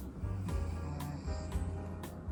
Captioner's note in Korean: 드르렁